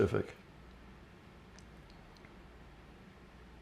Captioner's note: pauses 6 seconds